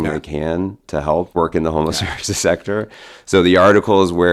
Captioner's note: chuckles